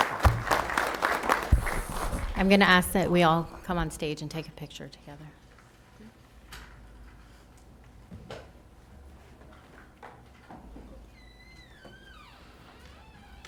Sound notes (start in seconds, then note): 2.6 applause